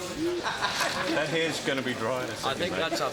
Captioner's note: crew Laughing